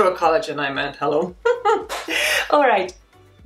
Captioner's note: laughs